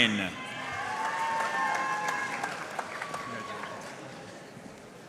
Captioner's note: audience cheering and applauding